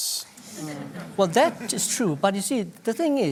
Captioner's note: laughter